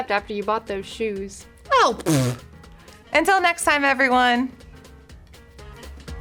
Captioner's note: makes raspberry noise